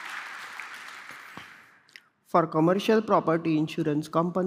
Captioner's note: applause